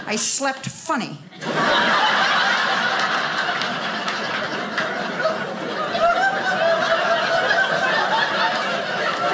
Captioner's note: audience laughing